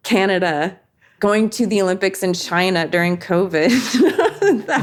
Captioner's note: laughs